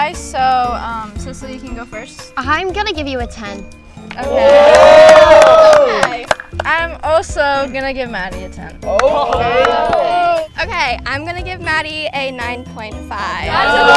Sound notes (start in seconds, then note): 4.2 group exclaiming; 8.8 group exclaiming; 13.4 group exclaiming